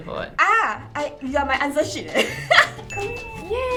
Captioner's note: laughs